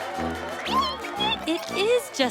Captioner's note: squeaking